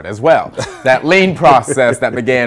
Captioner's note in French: laughter